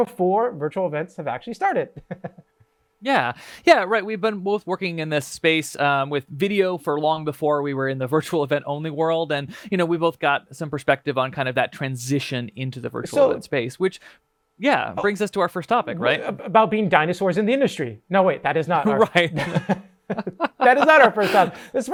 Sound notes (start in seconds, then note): 1.9 chuckling; 18.8 all laughing